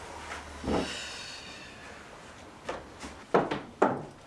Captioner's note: Alice sighs